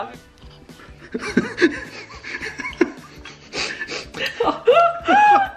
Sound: laughing

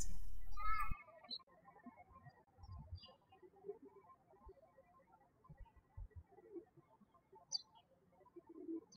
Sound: birds chirping

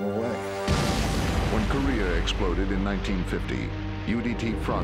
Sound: voiceover

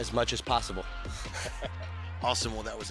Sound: laughs

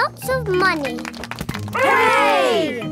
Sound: crowd applauding

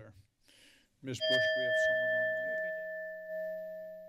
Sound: bell rings

